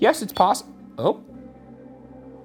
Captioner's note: beep